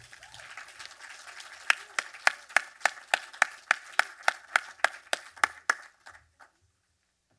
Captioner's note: cheers, applause